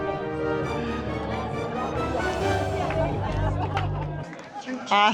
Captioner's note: clapping